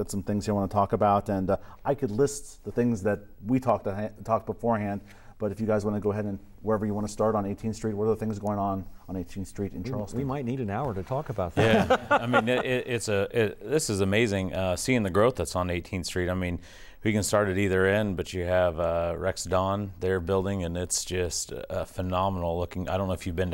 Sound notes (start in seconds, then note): 11.6 laughing